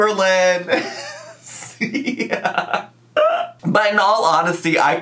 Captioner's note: laughs